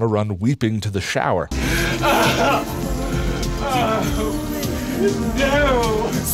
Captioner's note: Ace Ventura weeping